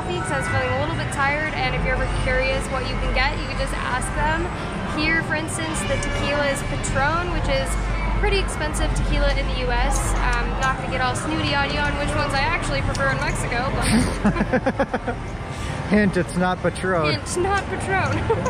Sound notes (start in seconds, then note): 13.8 laughing